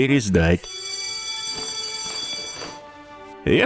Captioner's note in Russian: Звенит школьный звонок